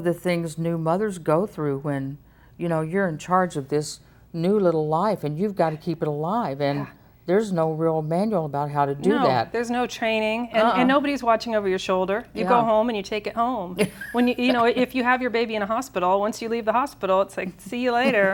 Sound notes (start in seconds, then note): 13.8 laughs